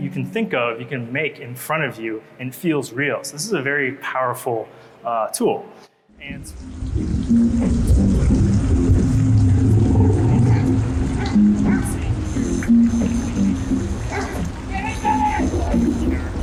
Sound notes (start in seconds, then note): 6.9 water trickling; 8.0 lion roars